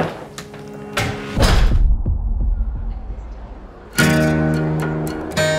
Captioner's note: boom resounds; calm acoustic music